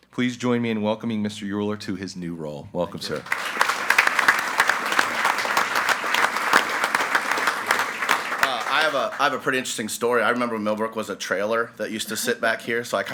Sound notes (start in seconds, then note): 3.0 group applauding